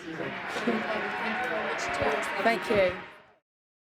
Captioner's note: audience cheers